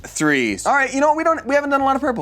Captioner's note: none